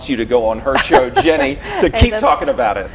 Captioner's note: laughs